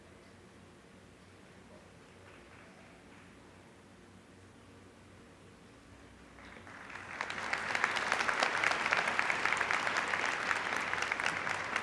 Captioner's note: applause